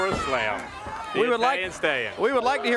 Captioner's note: crowd cheering